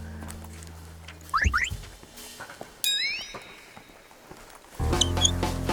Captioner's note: crinkle crinkle